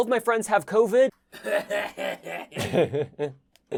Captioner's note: exaggerated fake coughing; giggling